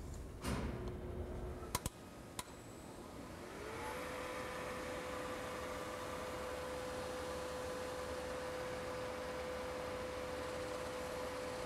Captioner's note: drilling